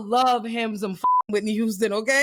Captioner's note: beep